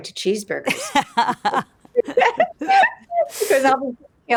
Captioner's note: laugh